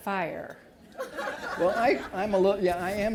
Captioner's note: laughter